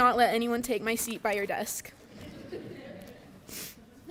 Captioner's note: laughter